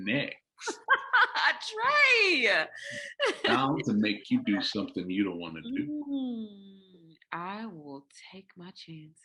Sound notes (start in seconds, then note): 0.6 laughs